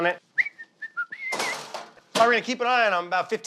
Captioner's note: whistling